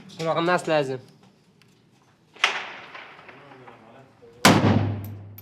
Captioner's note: speaking in foreign language